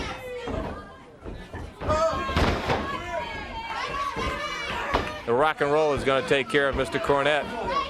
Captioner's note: crowd chatter